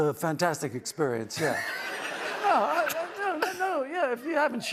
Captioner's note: laughter